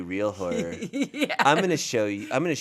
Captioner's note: laughs